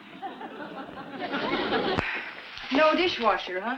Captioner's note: audience laughs